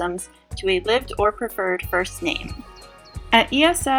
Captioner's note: birds chirping